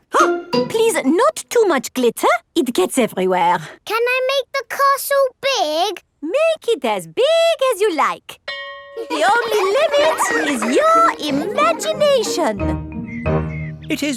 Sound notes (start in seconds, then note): 8.5 school bell rings; 9.0 children laughing